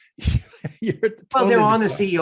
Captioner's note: laughing